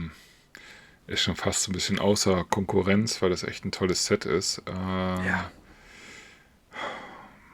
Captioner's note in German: seufzt